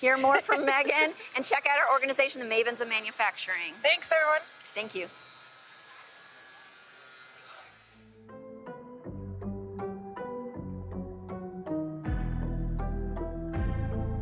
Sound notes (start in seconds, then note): 5.3 motor buzzing; 8.4 upbeat invigorating music